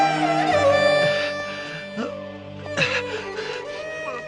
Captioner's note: groaning